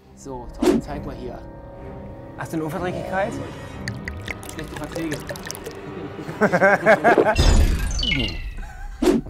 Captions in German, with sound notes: So, Tom, zeig mal hier. Hast du 'ne Unverträglichkeit? (Gluckern) Schlechte Verträge. (Lachen)